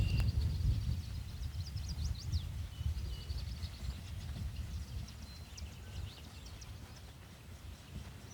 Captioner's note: birds chirping